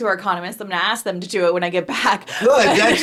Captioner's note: laughing